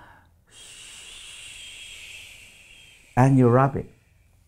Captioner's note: air blowing through teeth